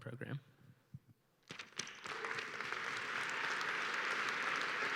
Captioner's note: applause